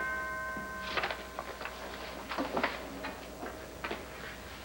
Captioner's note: dool rings